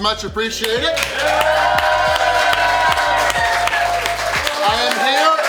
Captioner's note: applause and cheers